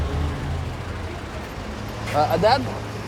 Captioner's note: speaking Arabic